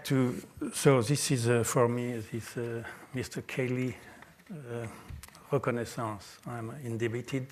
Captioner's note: french